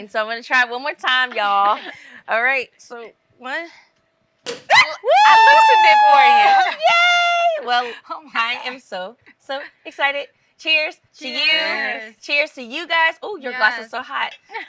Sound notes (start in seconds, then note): 4.4 champagne pops; 4.7 screams